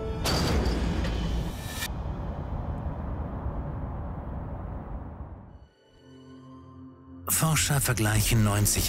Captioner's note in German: Tor schließt